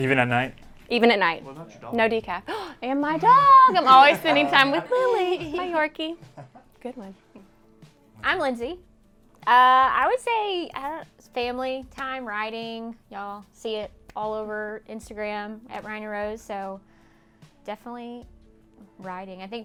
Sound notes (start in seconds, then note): 6.4 all muttering